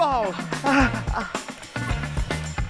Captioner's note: Ächzen